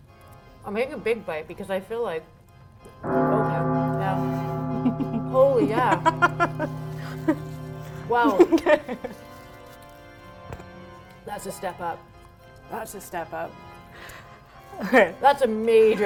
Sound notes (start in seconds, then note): 3.0 gong sound